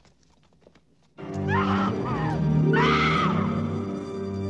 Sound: screaming; slow, tense orchestral music

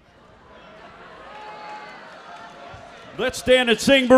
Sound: audience murmuring

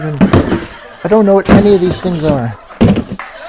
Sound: laughter

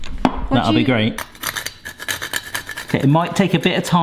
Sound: nutmeg grates

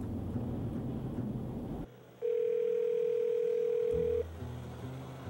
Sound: phone dials

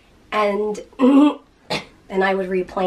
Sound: clearing throat

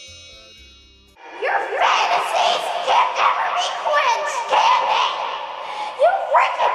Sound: distorted echo

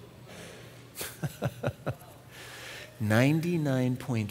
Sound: laughs

